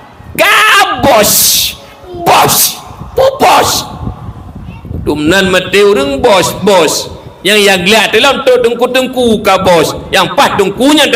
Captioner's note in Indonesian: berteriak